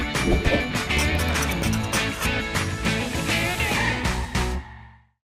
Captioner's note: upbeat guitar music; marker scribbling